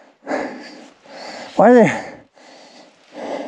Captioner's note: panting